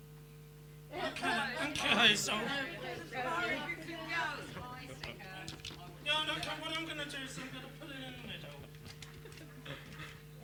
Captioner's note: audience chatter